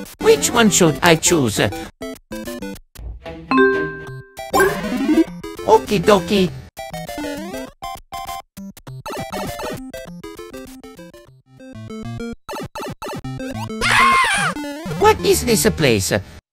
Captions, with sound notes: Which one should i choose? Okie dokie! (Mario screams) What is this place?